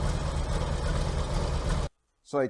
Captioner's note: engine off